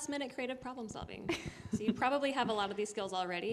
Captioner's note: laughter